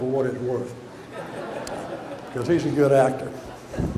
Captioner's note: audience laughter